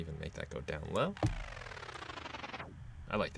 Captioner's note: electronic whirring